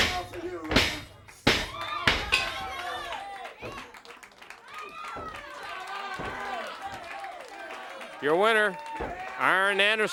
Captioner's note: crowd chatter